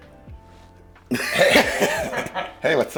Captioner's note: producers laugh